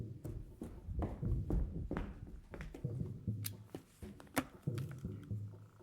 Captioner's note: footsteps